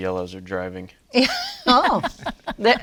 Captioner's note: laughs